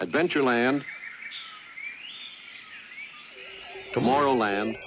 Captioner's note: jungle noises